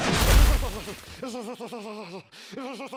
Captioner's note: walls creaking; loudly shivering